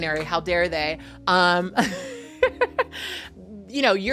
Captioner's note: laughing